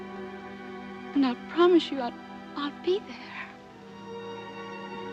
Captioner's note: voice breaking